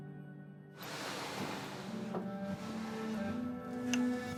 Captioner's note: TV stand sliding